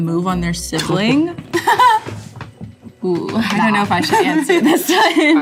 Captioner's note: Loren laughs; Mason laughs